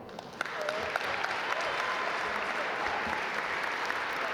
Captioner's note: audience applaud